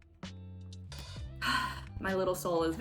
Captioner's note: sigh